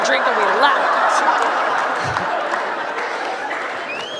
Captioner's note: laughter